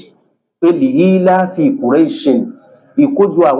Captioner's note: reciting arabic